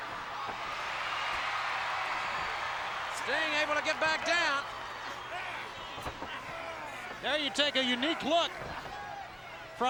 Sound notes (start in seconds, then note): 0.8 crowd cheers